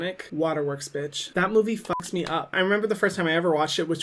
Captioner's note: beeping